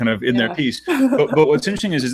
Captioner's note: laughing